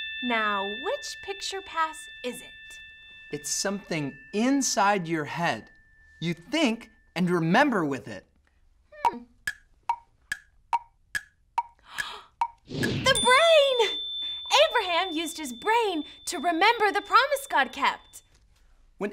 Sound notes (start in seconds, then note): 9.4 clock ticking; 11.8 gasps